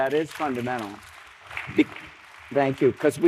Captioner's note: applause